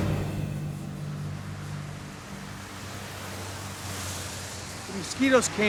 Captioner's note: air whooshing